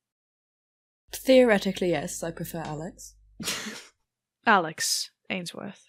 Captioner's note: laughs